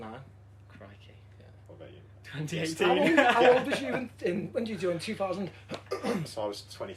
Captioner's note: laughter